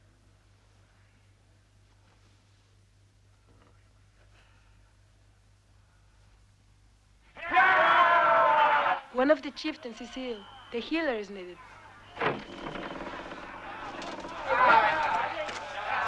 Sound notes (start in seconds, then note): 7.4 chieftains cheering; 12.0 gate opens